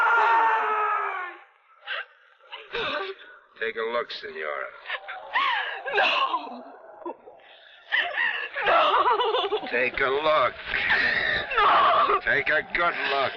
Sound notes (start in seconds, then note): 4.7 whimpers